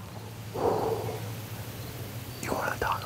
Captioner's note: whispering